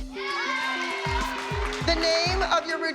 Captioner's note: applause